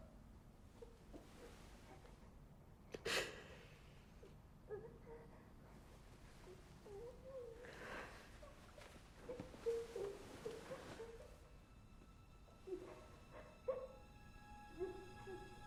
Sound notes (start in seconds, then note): 3.3 Bryn gasps; 6.5 child whimpering; 12.4 gentle tense music